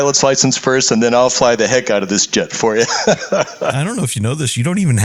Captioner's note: laugh